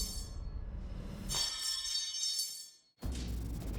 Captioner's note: clanging